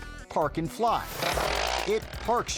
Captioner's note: bike buzzing